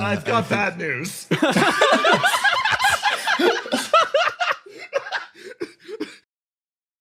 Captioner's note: laughs